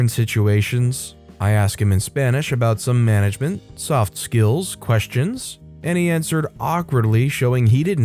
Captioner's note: in spanish